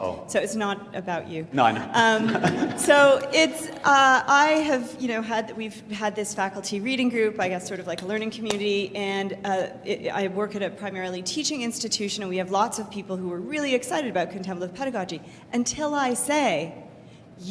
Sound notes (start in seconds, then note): 2.0 laughter